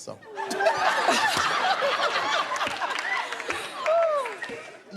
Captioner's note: laughter